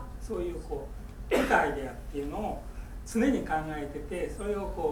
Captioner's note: coughing